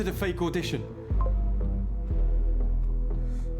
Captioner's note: message bleeps